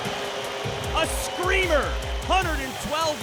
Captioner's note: crowd cheering